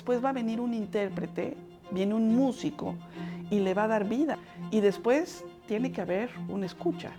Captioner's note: speaking Spanish